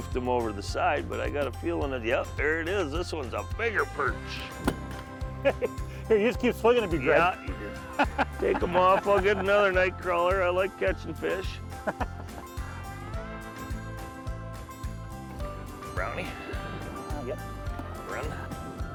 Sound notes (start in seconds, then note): 7.7 laughs; 11.8 laughing